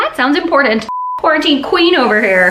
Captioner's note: beep